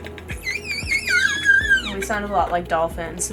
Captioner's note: dolphin whistle